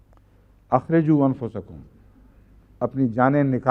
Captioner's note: Arabic